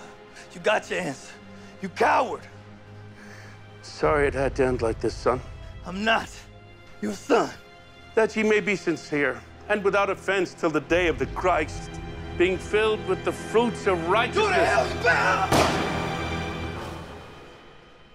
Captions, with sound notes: - You got your answer, you coward! - Sorry it had to end like this, son. - I'm not your son! - That you may be sincere and without offense 'til the day of the Christ being filled with the fruits of righteousness-- - Go to hell, you damn-- (gun fires)